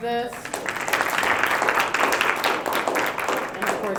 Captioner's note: applause